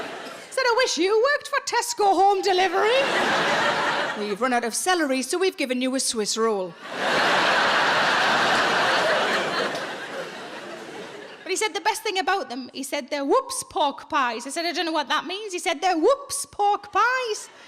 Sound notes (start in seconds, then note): 0.0 audience laughing; 6.8 audience laughing